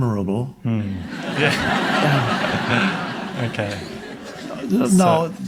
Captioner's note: audience laughing